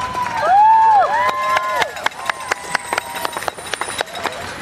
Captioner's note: cheers and applause continue